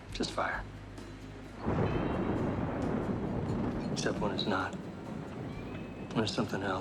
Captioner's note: thunder